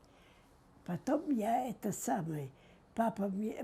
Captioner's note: mumbling